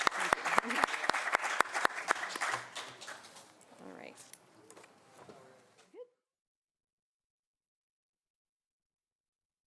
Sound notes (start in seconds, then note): 2.8 applause